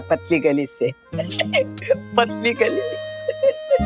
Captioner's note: chuckling